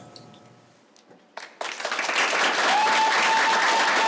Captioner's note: applause